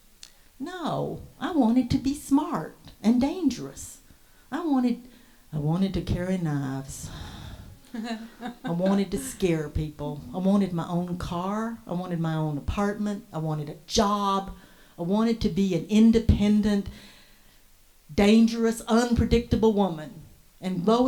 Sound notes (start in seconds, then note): 7.1 exhales; 7.8 female Voice 2 laughs